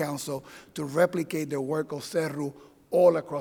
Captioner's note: in foreign language